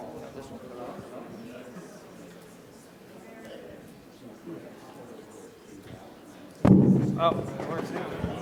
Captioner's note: chatter